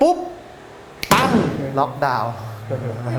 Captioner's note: boom